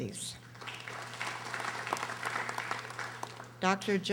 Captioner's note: audience applauding